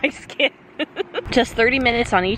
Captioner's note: chuckles